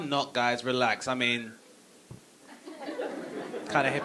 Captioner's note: audience laughing